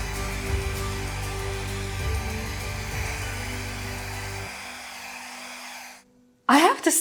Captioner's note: machine whooshing